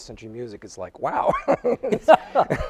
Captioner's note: laughs